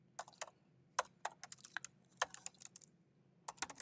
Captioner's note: keyboard clacking